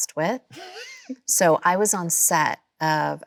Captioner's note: Chloe chuckles